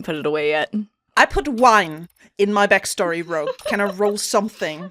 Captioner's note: laughter